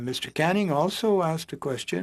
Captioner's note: speaking French